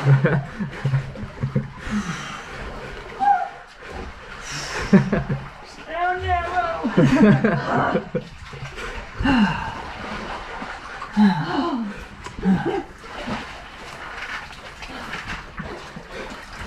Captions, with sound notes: stay on that rope! (laughing) grrr (sigh) (sigh) (sigh!) (one more sigh)